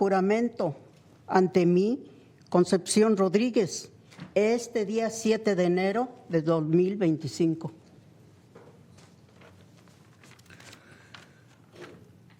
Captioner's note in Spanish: hablando español